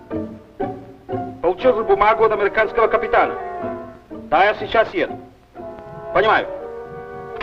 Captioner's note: vintage music; foreign language